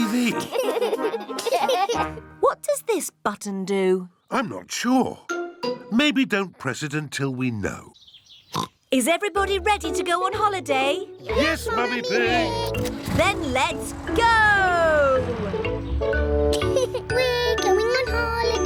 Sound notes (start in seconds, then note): 0.2 laughter; 8.5 oinks; 16.4 laughs